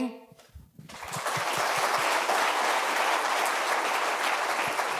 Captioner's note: audience applauding